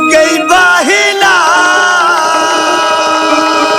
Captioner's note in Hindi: चीखने की आवाज़